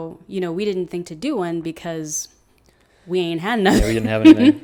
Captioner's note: laughs